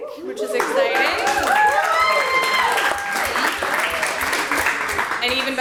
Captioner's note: audience applauds